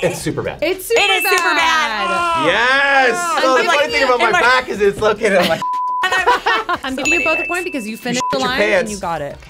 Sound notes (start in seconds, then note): 5.6 beep; 6.0 laughing; 9.3 bell dinging